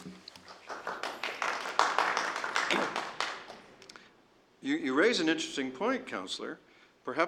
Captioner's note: applause